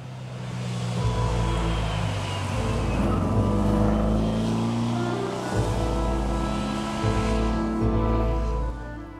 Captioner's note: car Driving